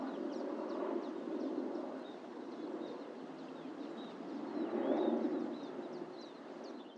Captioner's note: outdoor sounds of plane flying overhead, birds chirping